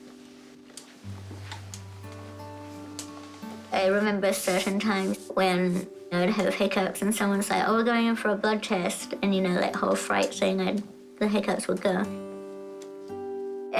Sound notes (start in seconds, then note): none